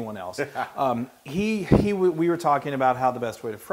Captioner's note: laugh